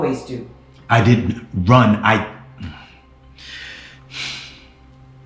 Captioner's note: sighing